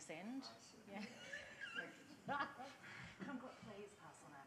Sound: laughs

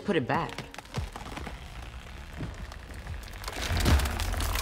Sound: bridge creaking

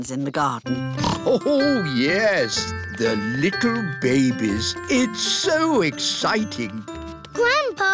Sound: snorts

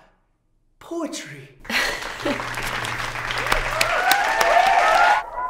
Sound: cheering and applause

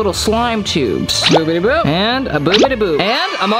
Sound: bubbles sound

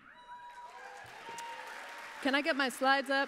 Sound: applause

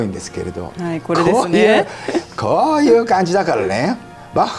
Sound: laughs

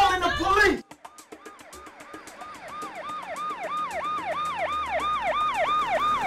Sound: Marlene yells; police siren wailing; car engine rumbling

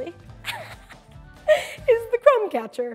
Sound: laughing

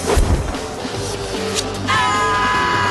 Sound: screaming

